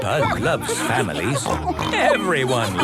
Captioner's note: snorts